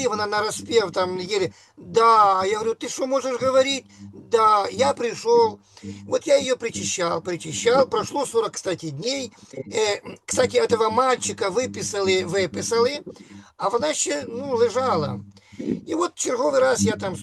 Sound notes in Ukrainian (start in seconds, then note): 9.5 прочищення горла